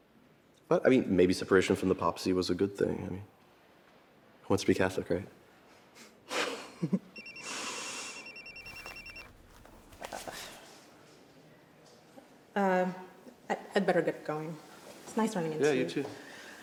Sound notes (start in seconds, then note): 5.8 laughs; 7.1 phone ringing